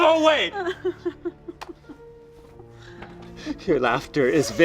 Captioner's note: laughing